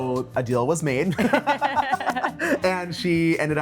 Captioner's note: all laughing